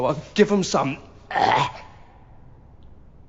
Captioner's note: gagging